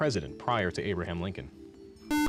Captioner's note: beep